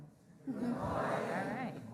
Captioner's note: crowd